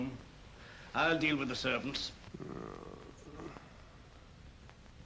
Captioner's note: moans